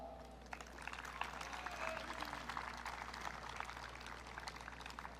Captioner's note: audience clapping